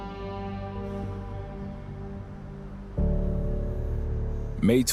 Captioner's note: traffic hums